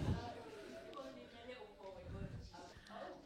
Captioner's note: none